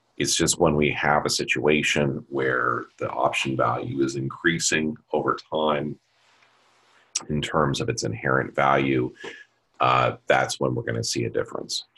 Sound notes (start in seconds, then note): none